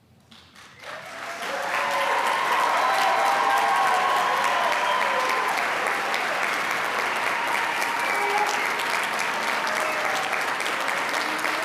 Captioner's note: cheering and applause